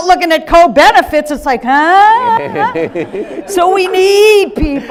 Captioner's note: audience laughing